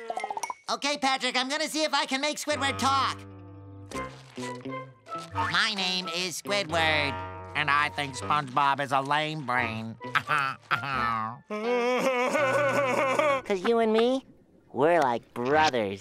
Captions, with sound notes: Okay, Patrick, I'm gonna see if I can make Squidward talk. My name is Squidward and I think SpongeBob is a lame brain. [laughing] ‘Cause you and me, we're like brothers,